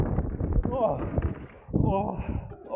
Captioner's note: groans